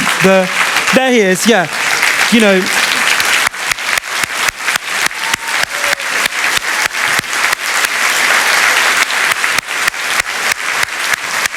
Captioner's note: applause